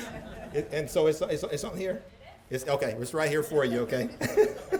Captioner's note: laughter